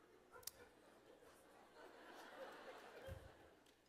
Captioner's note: laughter